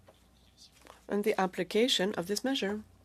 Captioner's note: speaking French